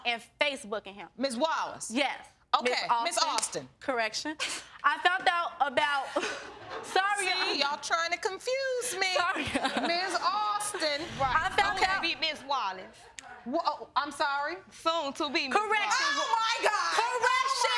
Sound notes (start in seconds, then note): 8.1 laughing